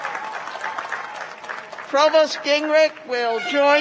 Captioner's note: cheers and applause